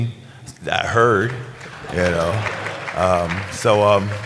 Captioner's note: applause